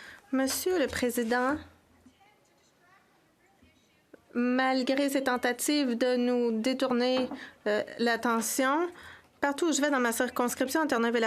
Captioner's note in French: voix de l'interprète